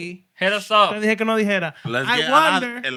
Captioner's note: speaking Spanish